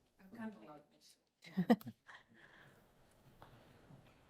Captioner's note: laughing